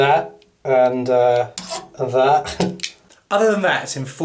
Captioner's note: chuckles